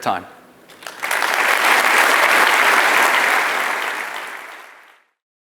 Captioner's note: audience clapping